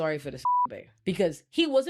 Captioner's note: beep